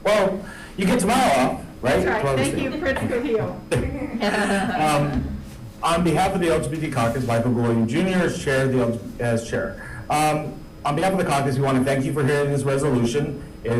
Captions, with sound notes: - Well, you get tomorrow off, right? - That's right, thank you Prince Gohil. (meeting members laughing) - On behalf of the LGBT caucus, I'm Michael Golojuch Jr. as chair. On behalf of the caucus, we want to thank you for hearing this resolution.